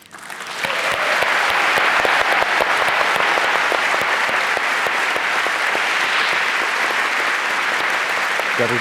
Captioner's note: applause